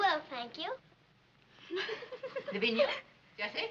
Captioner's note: giggling